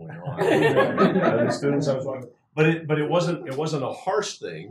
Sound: laugh

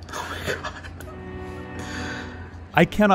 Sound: laughs

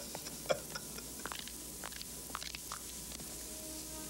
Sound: Thing, sound of knuckles cracking

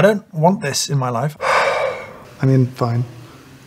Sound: sighs in search of pity

